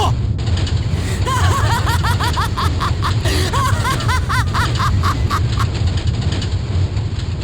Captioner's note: evil laugh